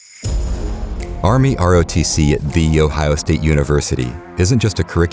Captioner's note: upbeat music; voiceover